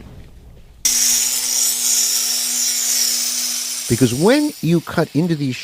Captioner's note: saw cutting